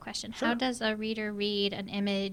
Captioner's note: voiceover